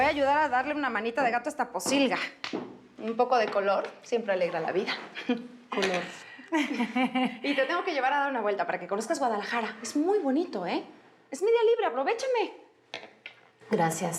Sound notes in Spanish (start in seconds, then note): 6.5 risas